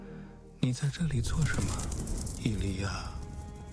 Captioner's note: horse gallops and whoosh